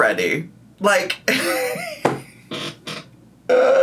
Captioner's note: laughs